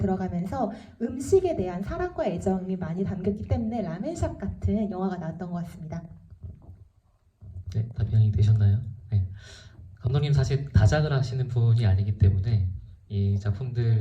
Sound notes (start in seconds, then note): 8.2 speaks in foreign language